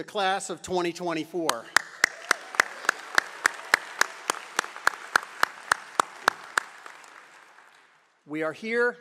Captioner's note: applause